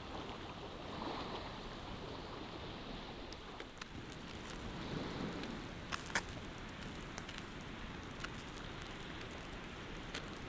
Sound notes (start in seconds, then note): 6.1 fire sizzling